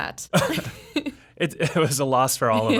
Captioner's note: laughing